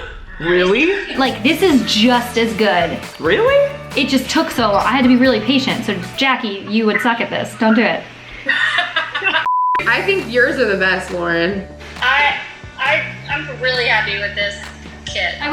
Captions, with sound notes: - Really? - Like this is just as good. - Really? - It just took so long. I had to be really patient so Jackie, you would suck at this. Don't do it. (laughing) (beep) - I think yours are the best Lauren. - I'm really happy with this kit.